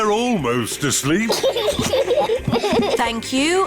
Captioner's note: both laugh